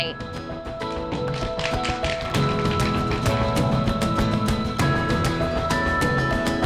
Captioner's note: cheerful instrumental music; audience applauding